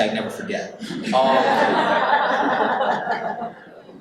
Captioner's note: audience laughs